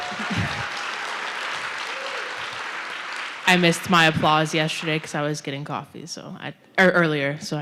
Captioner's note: applause